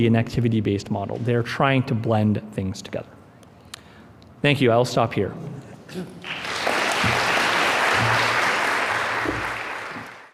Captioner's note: applause